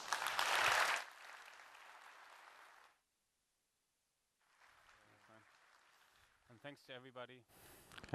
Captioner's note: applause